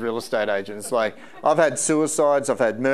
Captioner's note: audience laughing